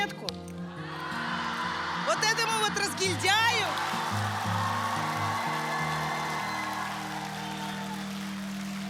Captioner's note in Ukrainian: оплески